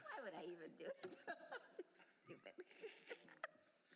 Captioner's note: laughter